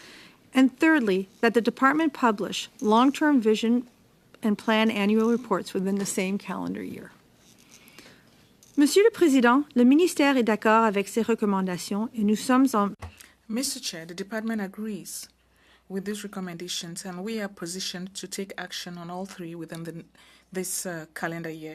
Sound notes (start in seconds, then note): 13.5 speaking French